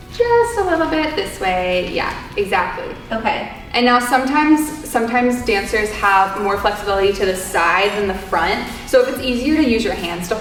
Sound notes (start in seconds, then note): none